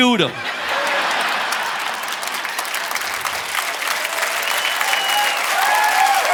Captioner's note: audience laughing and applauding